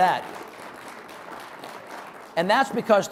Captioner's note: audience applauding